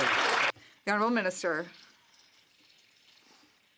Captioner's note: some Applause